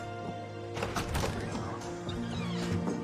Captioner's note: door opens